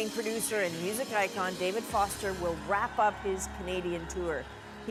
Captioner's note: applause